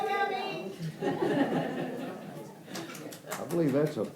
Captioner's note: people laughing